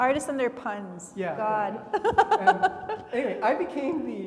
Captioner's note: laughs